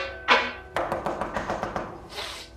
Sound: door knocking

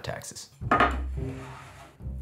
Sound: board sliding

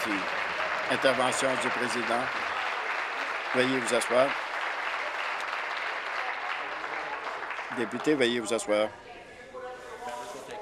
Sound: applause

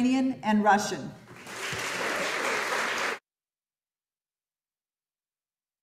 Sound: audience applauding

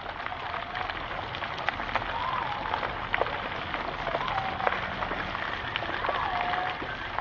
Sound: nature sounds

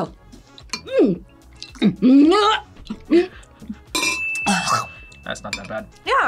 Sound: gags

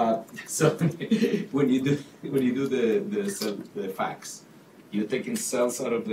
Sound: laughs

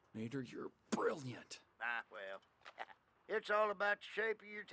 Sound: laughs

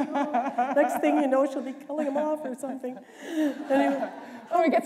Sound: laughter

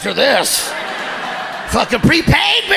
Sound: audience laughing

